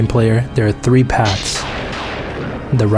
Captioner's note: lightning strikes